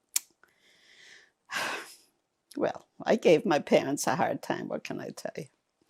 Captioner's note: sighing